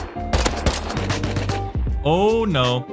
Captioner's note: tommy gunfire